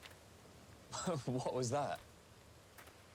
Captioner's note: Rich chuckles